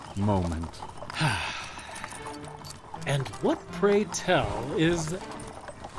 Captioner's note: sigh